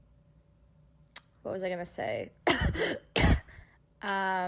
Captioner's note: cough cough